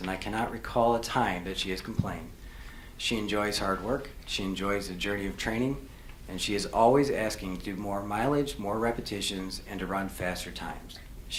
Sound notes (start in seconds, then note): none